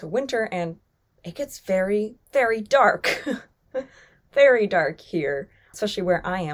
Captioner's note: chuckles